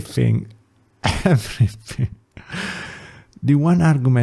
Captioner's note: laughs